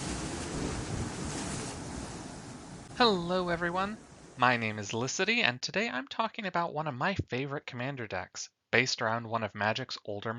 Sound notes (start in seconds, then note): 0.0 crashing waves